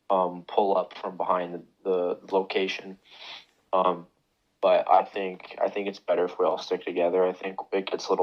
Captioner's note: sniffs